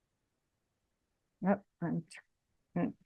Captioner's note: speaks faintly